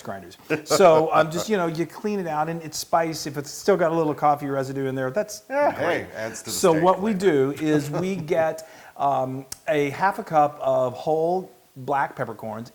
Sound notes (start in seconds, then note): 0.6 laugh; 7.4 laugh